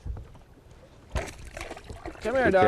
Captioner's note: splash